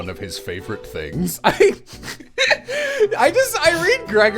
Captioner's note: laughter